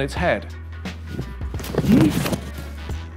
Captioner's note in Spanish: Sonido de golpe